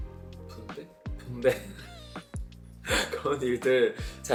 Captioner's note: haha